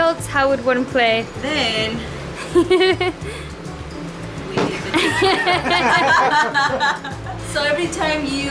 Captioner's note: laughter